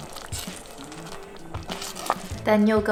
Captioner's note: stirring